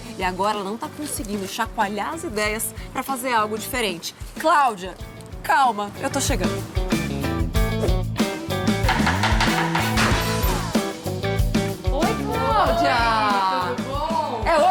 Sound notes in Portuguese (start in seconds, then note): 7.1 música vibrante; 8.8 batidas à porta